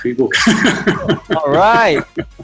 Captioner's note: laughing